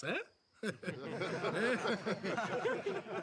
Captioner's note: all laugh